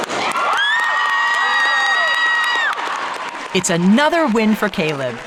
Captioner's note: crowd cheering